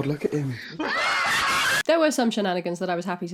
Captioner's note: blood-curdling screams